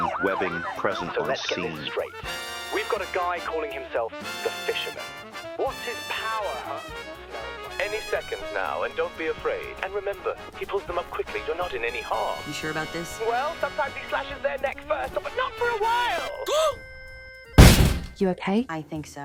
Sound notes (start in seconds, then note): 16.5 Abigail gasps; 17.6 door bangs